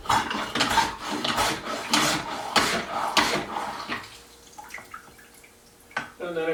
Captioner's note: sploosh, sploosh, sploosh, sploosh, sploosh